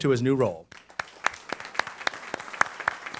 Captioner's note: applause